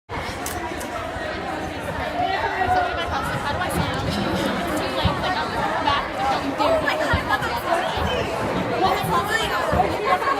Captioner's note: various students chattering